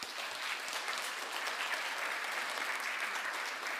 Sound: attendees clapping

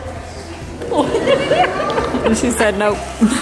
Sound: laughs

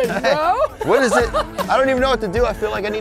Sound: laughing

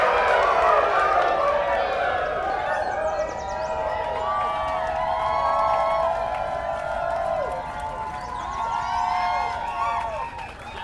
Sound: applause

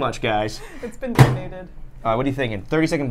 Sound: microwave bangs

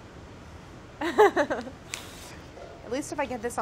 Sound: laughs

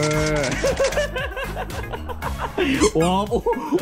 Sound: laughing

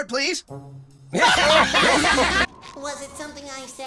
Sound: all laughing

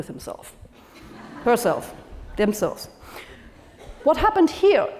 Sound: laugh

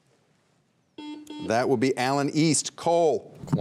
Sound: buzzer beeps twice

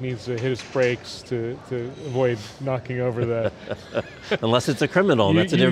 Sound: laughs

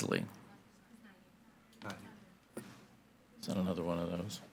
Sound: faintly speaking

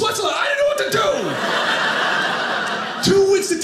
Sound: audience laughing

